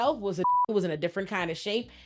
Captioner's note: beep